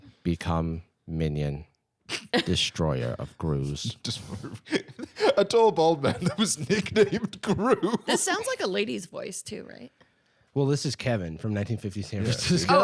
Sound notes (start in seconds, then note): 3.6 laughing